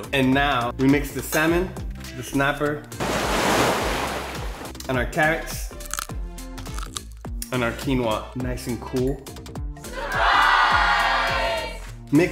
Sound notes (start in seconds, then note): 3.0 sound of waves crashing; 6.6 crunching sounds